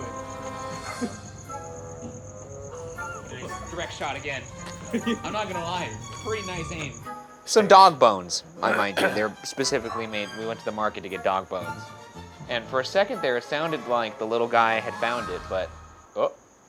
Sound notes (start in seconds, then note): 2.8 distant bone clacking